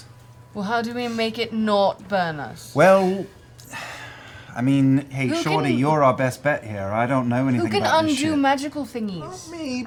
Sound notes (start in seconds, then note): 3.6 sighs